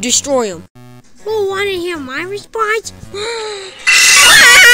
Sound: inhales; screams

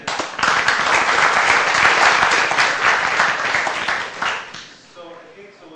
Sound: applause

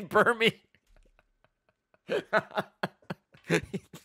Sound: laughs

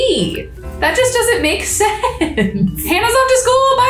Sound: laughs

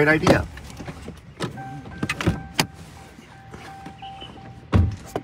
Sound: car door alarm beeps

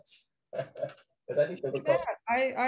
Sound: laughs

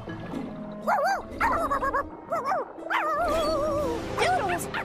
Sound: cream puff barking

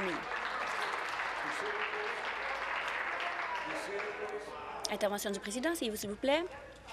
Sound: applause

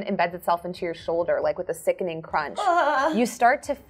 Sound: groans

